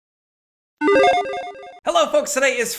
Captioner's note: logo beeps